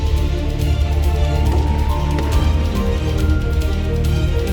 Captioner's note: guns firing